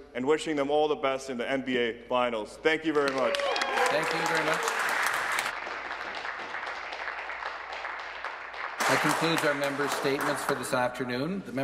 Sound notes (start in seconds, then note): 8.0 applause; 8.8 cheering